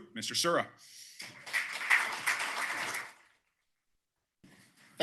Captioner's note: applause